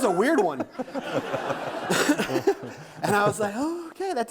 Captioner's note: audience laughing